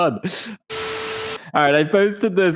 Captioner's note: TV static